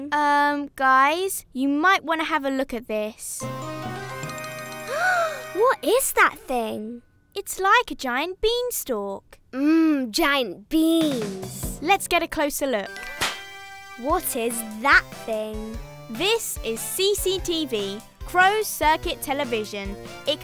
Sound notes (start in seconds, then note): 3.4 dramatic music; 4.8 gasps